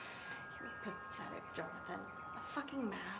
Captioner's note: sighs